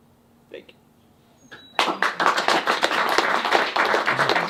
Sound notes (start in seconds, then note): 1.7 audience applauding